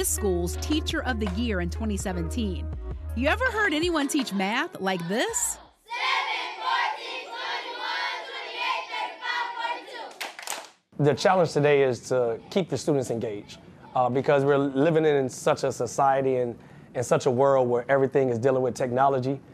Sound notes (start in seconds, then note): 10.0 students clapping